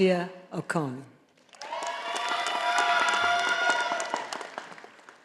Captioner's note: audience applauding